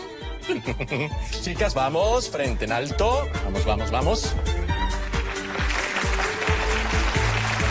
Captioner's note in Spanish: Aplausos